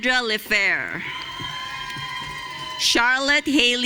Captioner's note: audience cheering